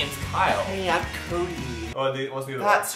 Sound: high pitched American accent; music ends; high pitched American accent

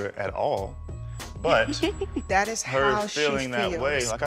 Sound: chuckles

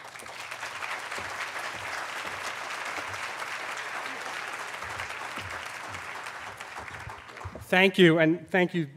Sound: applause

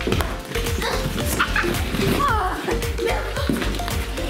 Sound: grunting

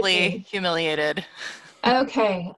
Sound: laughs

